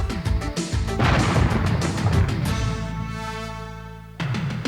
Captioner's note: cannon explodes